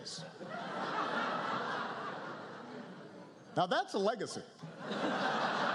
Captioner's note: laughter